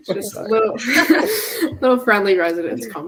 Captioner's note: everyone laughing